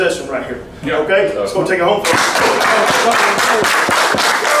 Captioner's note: clapping